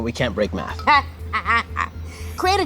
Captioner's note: laughs